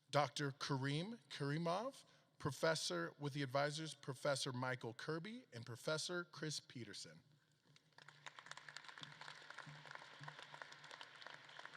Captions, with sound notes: Dr. Karim Karimov with the advisors Professor Michael Kirby and Professor Chris Peterson. (audience claps)